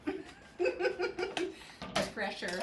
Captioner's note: laughs